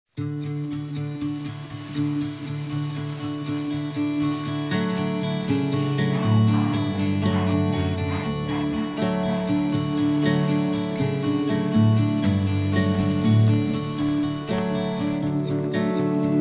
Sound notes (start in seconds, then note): 0.0 guitar playing; 1.5 wind blowing through trees; 5.5 Crowd chanting B.E.A.R.C.A.T.S. Bearcats, Bearcats!; 9.9 gentle wind blowing; 15.3 singing